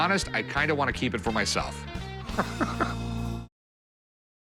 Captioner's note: laughs